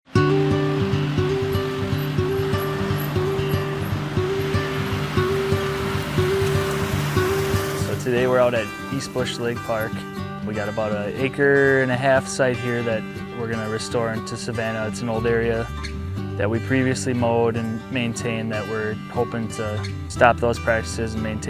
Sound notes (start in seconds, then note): 0.0 slow music; 4.8 tractor driving